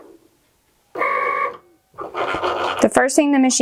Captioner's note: machine whirring